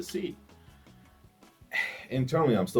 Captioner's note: sighs